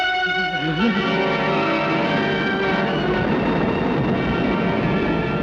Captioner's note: Roderick whimpers